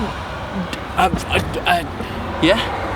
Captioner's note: stuttering